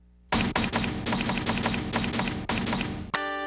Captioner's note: keyboard clacking; upbeat music